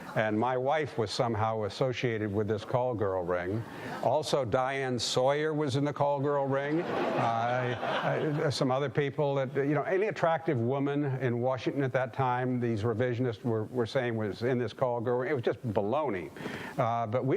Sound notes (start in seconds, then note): 6.6 audience laughing